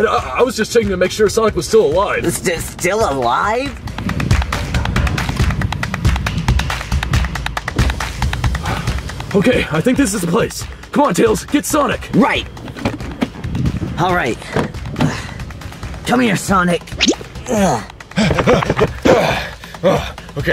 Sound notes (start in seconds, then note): 3.8 upbeat music; 15.2 grunting; 17.3 grunting; 18.0 all panting